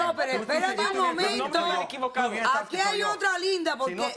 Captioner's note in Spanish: Hablan al unísono